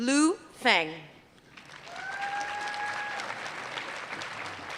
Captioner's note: applause